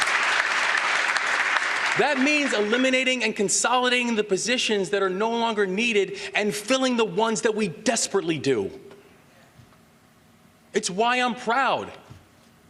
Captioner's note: applause